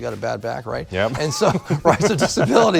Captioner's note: laughs